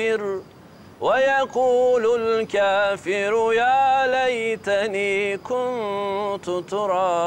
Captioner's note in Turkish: Arapça kuran okunuyor